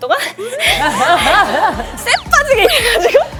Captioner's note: pant, pant